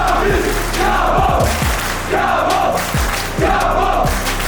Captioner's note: chanting